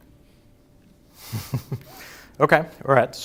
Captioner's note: laughs